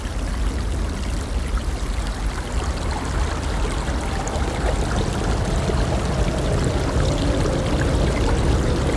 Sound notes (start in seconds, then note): 0.9 water running; 6.1 water running